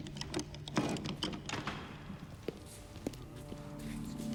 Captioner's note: box thudding